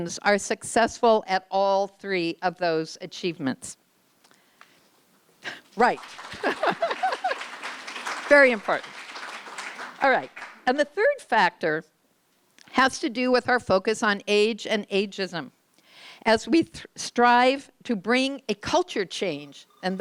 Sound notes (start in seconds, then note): 5.7 applause; 6.2 giggles